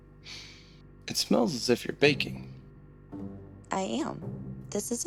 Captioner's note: inhales